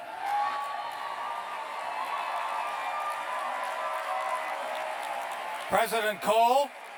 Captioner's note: cheers and applause